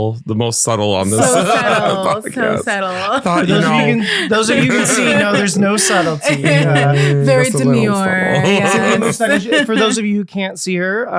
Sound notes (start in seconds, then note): 1.9 all laughing